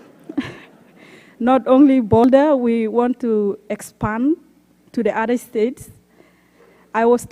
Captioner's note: laughter